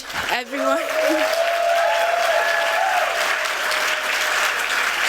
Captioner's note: applause